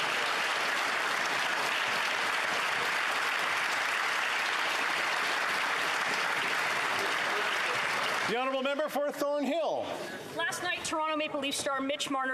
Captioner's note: applause